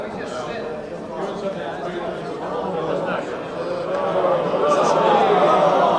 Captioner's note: crowd chatter overlapping